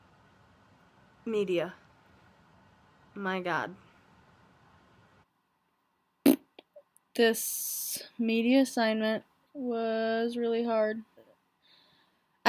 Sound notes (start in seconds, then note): 4.6 blows raspberry